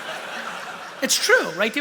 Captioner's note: laughter